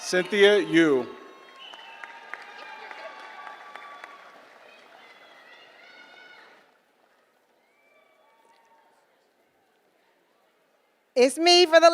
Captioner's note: applause